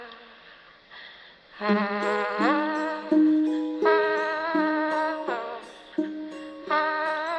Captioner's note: vocalist continues humming